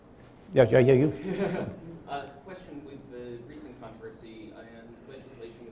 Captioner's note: giggle